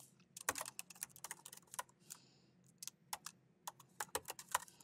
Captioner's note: keyboard clacking continues